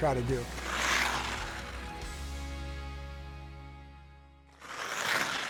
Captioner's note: skates scraping on ice